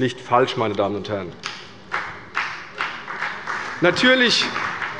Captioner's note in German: Beifall bei der CDU und dem BÜNDNIS 90/DIE GRÜNEN